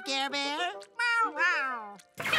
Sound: meowing

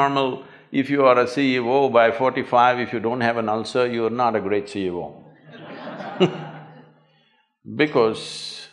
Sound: laughter

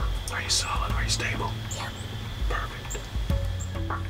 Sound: whispering

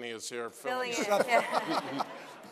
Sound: laughter

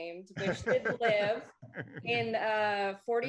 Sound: laughs

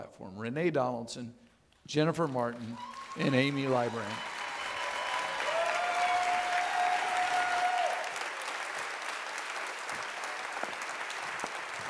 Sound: audience clapping

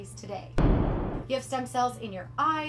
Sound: explosion sound

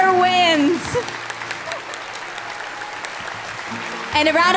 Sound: applause

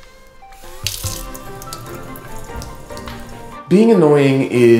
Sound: splashing

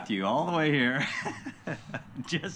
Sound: laughing

